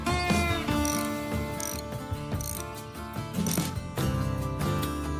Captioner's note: ratchet clicking